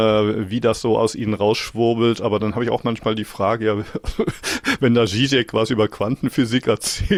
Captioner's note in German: gelächter